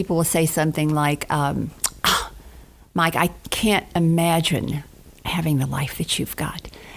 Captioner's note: gasps